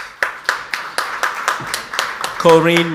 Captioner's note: audience applauds